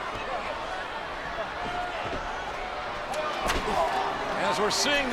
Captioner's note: audience chattering